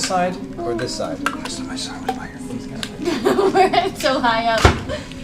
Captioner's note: laughs